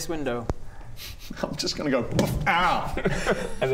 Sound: boof

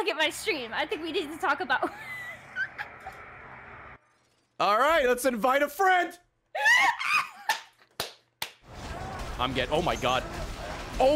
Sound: laughs

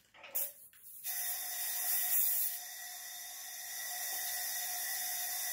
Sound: the sound of air filling the hydrophore

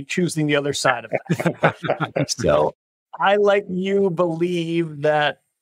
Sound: laugh

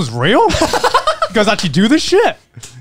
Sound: laughing

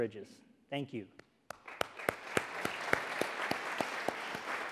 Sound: audience applauding

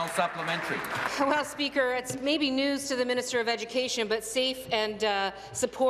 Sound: applause

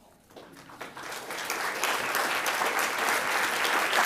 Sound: audience clapping

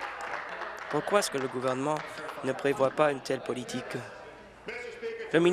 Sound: applause

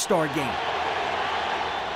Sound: crowd cheers

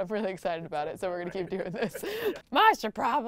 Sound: laughs

